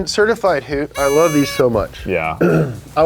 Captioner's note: car honks softly